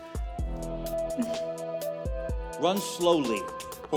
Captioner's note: laughs